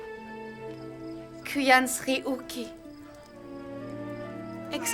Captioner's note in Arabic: الصوت المنطوق البدوي